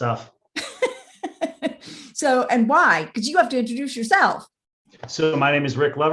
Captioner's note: laughs